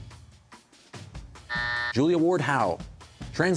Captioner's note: buzzer